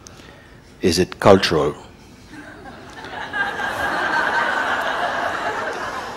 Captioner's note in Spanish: risas del público